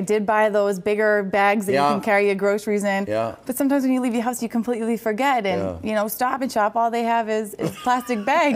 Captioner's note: laughter